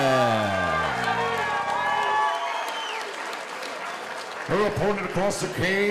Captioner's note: audience cheering